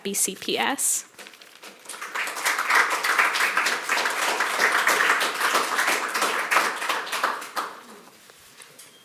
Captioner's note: applause